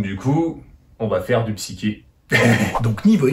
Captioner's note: demonic laugh